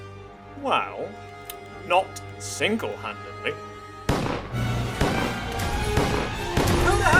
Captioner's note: gunshot sounds